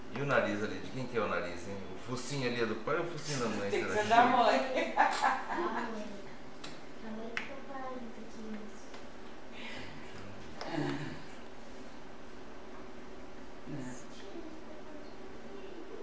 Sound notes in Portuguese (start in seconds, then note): 4.5 risos